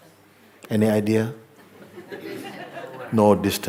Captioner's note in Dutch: gelach